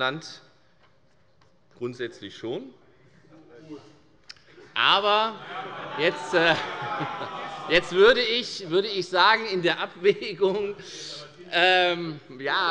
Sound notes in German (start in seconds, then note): 5.0 Heiterkeit und Zurufe